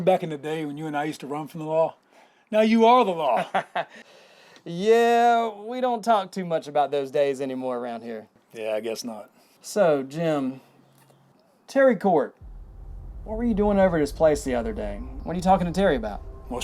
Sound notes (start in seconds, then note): 3.4 laughs